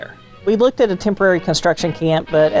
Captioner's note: pat